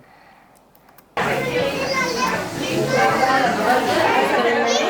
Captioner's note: many voices